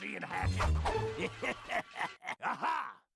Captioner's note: laughing maliciously